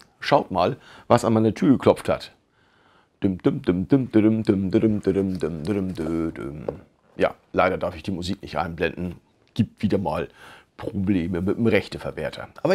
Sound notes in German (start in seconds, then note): 3.5 Versucht, eine Melodie zu summen